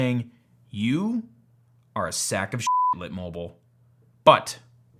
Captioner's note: beep